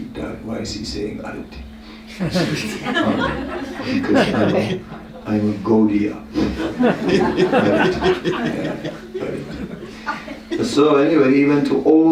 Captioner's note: laughter